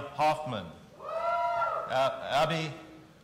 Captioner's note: audience cheering